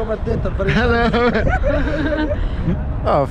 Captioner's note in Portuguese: Risos